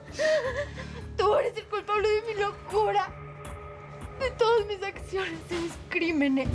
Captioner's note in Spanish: Sollozos